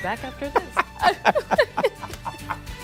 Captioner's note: laughter